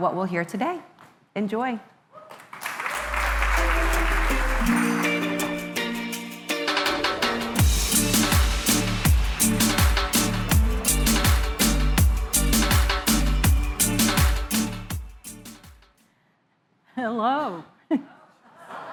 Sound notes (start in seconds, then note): 2.2 applause